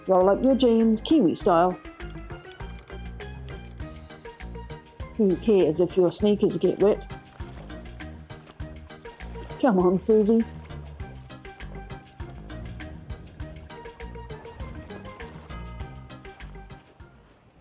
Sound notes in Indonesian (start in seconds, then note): 8.7 cipratan air